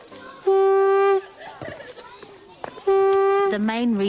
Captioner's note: conch blaring